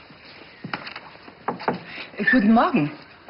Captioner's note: knock on the door